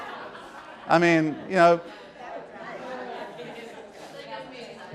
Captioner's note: laughter; audience mumbles